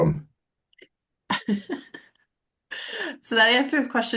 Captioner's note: laughter